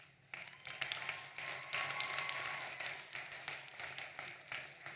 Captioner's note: audience applauding